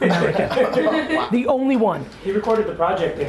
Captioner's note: laughing